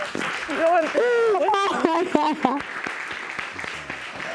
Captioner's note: sobbing